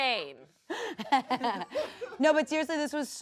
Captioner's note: everyone laughs